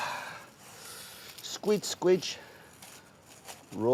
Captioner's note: exhaling